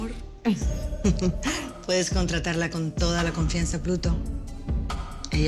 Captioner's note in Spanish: Ríe